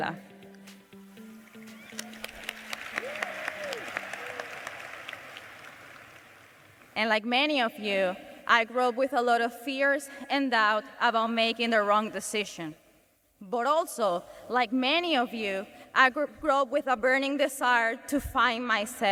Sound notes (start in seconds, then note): 5.3 cheers and applause